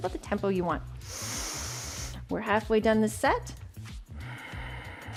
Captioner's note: inhales